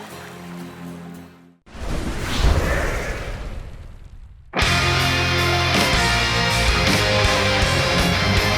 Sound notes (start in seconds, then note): 1.7 swooooosh